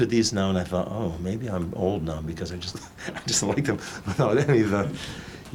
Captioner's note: laughing